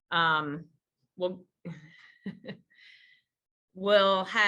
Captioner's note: chuckles